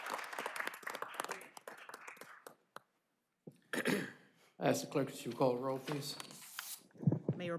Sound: applause

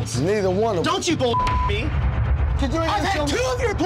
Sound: beep

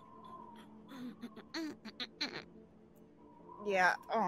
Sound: humming

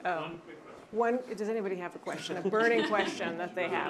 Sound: off microphone

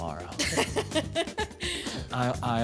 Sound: laughing

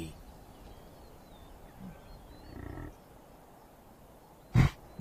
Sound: buffaloes grunt

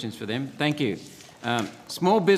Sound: pages turning

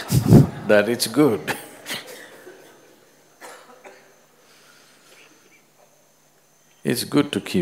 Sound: laughter; laughs

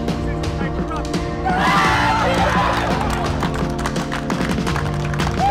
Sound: loud cheering from crowd; loud cheering from crowd

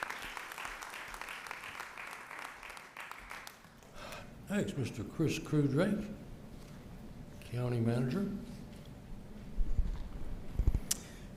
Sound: applause

